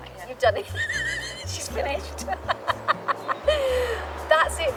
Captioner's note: laughing